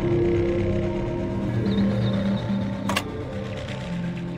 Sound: birds tweeting

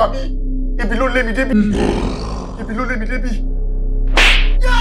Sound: Mohuru growls

